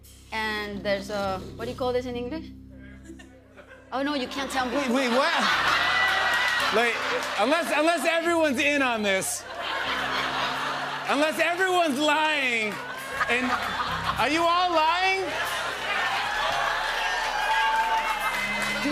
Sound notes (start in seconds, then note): 4.4 laughter; 15.8 cheers and applause